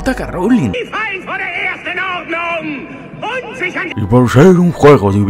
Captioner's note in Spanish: sonidos alemanes